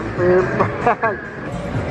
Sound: chuckles

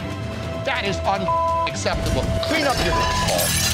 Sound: beep

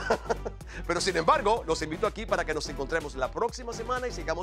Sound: laugh

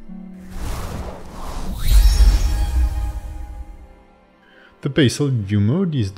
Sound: screen whooshing; tranquil music

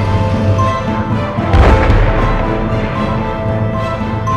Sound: gunshots

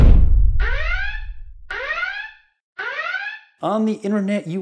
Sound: alarm sound

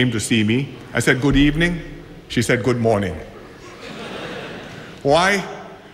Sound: laughter

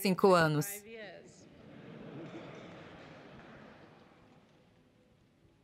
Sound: people laughing

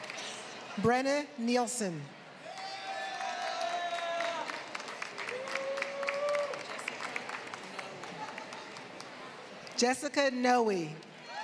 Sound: applause

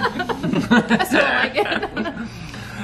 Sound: laughing

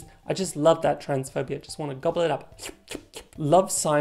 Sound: slurp slurp

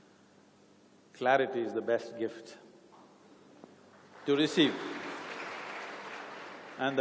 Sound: applause

